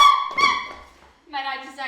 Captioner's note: yelps